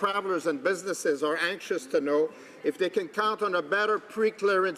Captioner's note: speaking French